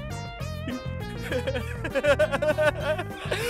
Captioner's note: laughing manically